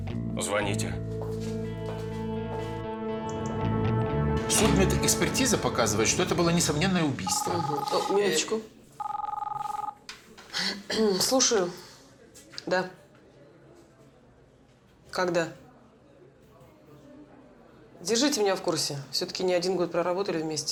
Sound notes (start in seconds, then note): 9.0 phone rings; 10.4 clears throat